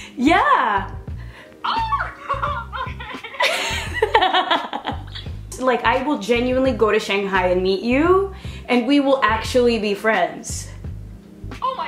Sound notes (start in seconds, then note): 3.5 laughter